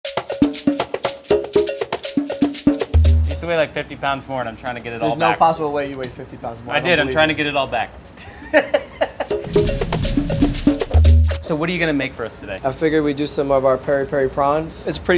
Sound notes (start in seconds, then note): 0.0 upbeat music; 8.2 chef laughs; 9.2 upbeat music